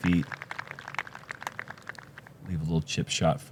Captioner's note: applause